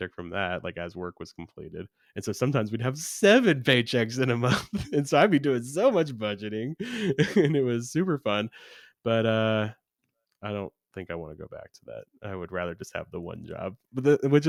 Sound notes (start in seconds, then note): 4.4 laughs